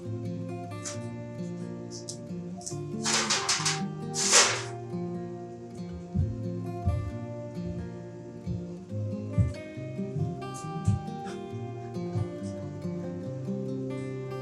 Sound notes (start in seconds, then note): 3.0 sheet material clattering; 8.5 mellow music continuing